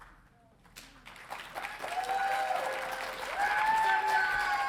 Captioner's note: audience cheering